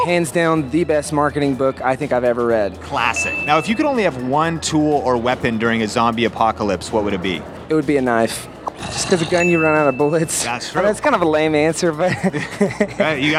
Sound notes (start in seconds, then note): 3.1 bell dings; 12.0 laughs